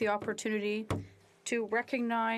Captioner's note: speaking French